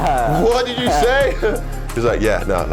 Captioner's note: laughs